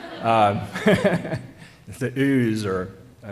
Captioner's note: laughter